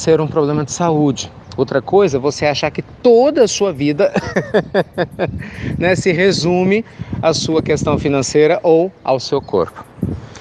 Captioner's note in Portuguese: Risos